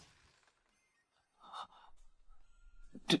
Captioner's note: gasp